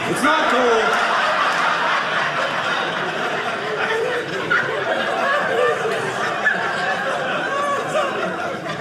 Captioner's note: audience laughing